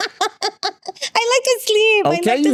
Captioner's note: laughing